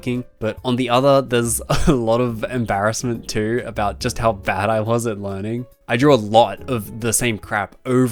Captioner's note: hahah